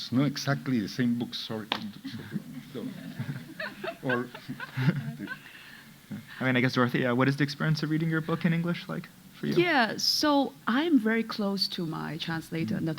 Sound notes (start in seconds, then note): 2.7 audience laughing